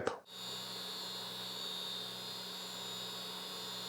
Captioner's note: machinery whirring